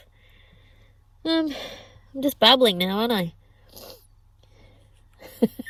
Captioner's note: sniffs; laughs